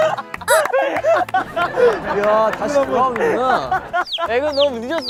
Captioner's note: man #9 bursts in to laughter over Man #3's mistake